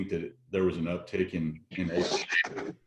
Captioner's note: audio is choppy